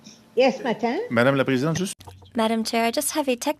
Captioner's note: speaking French